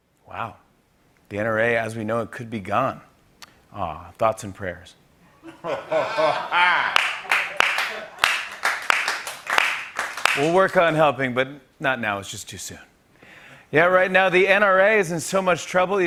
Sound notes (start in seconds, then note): 5.5 laughter and applause